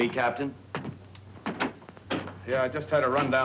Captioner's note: door shuts